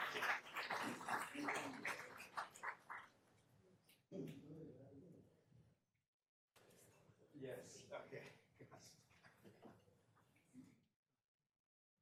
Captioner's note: applause